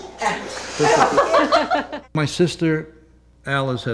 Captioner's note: laughter